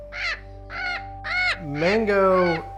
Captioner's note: bird squawks